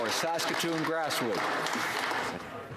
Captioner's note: some Applause